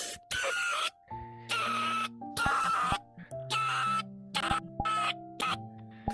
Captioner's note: screams for microwave beep XD